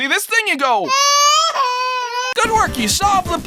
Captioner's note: stock sound of baby crying